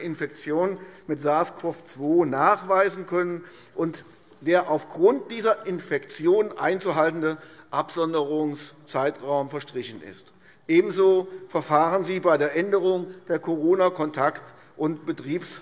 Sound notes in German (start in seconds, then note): none